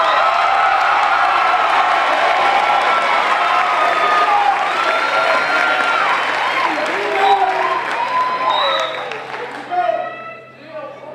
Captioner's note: crowd cheering